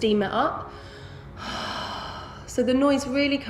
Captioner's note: breathing